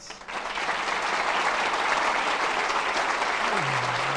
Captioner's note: applause